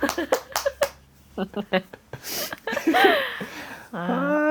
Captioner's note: laughs